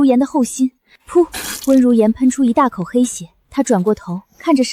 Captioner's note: pfft!